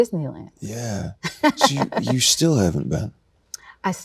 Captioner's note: laughs